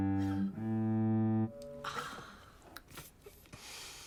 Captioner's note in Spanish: gemidos ligeramente